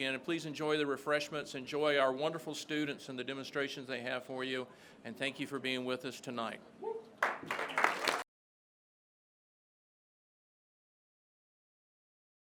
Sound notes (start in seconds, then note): 7.2 all clapping